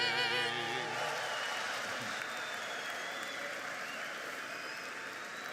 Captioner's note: audience cheers and applauds